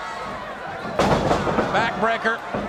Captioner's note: body thuds